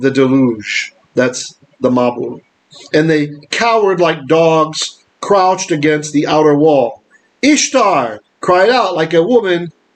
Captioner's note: Hebrew